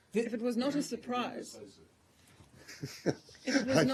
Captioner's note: laughter